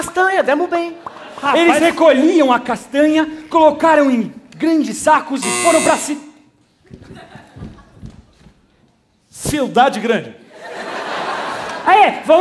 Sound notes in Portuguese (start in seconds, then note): 5.4 campainha